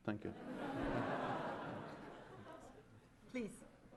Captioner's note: laughter